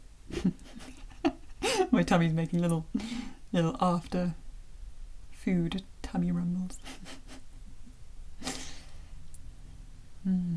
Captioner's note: chuckle